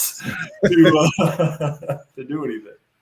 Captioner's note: laughs